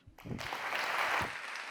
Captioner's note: applause